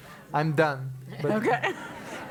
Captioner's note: laugh